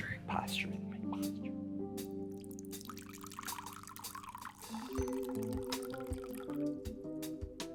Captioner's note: pleasant groovy music; liquid lapping